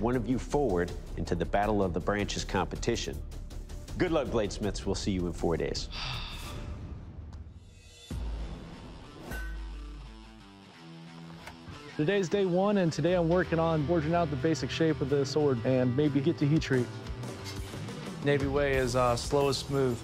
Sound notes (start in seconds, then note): 5.8 sighs